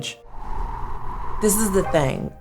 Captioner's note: wind blowing